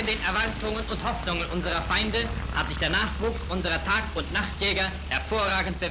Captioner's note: newsreel voiceover speaking German